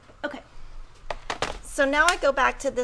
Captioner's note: calculator clatters